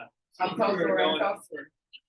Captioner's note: indistinct chatter